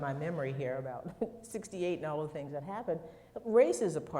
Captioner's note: chuckles